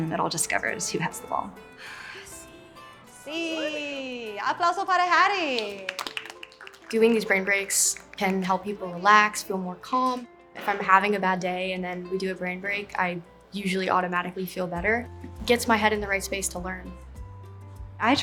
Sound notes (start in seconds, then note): 2.7 speaks in Spanish language; 5.5 students clapping